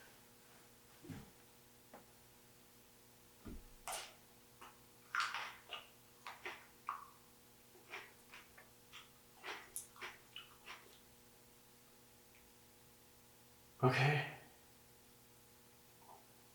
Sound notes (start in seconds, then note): 5.4 teeth crunching